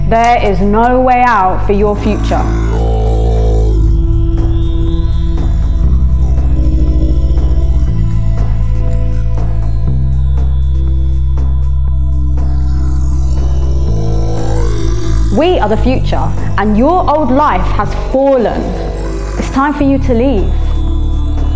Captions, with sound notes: There is no way out for your future.. [Groan] We are the future and your old life has fallen. It's time for you to leave..